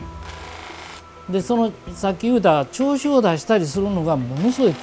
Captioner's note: speaking foreign language